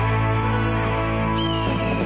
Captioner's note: dramatic music; eagle screeching